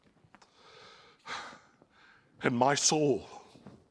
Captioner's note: sighs